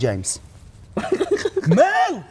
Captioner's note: laughs